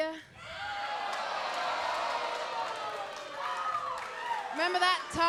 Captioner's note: crowd exclaims